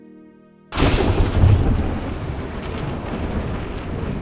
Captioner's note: thunder crashing